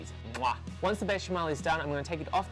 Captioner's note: imitates a kiss